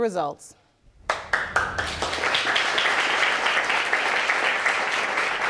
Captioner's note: applause